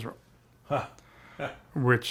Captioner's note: chuckles